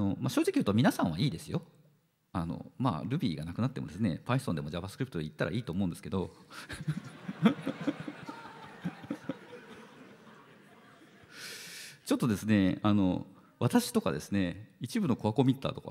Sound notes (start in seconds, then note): 6.6 laughter